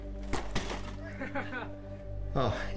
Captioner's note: laughter